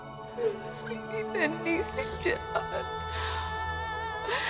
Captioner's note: Rabiyah crying